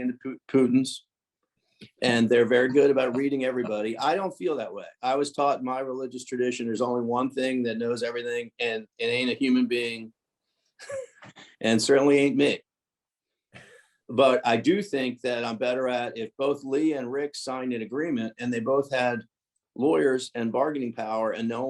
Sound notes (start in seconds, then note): 10.8 chuckles